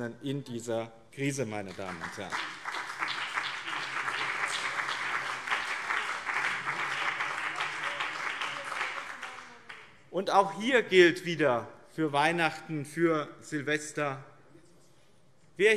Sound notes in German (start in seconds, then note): 1.6 Beifall BÜNDNIS 90/DIE GRÜNEN und CDU